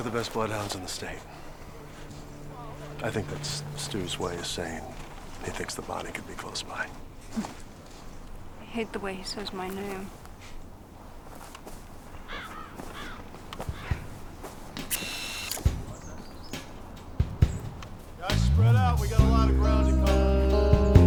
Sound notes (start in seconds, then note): 14.7 camera whirring